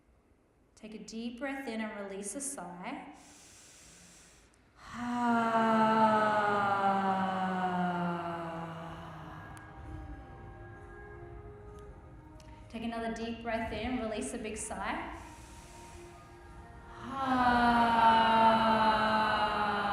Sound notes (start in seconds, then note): 3.1 inhales deeply; 4.7 sighs slowly; 10.6 calming music; 15.1 inhales deeply; 17.2 sighs slowly